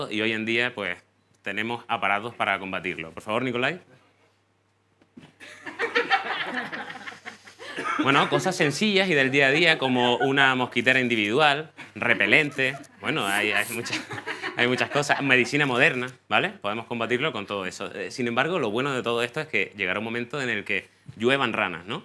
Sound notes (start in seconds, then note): 5.3 laughter